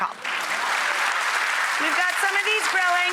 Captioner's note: audience applauds